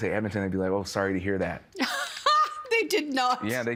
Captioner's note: laughing